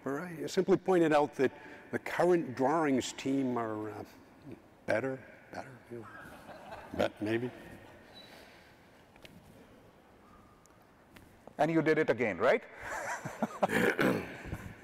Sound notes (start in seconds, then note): 6.2 audience chuckles; 12.8 chuckles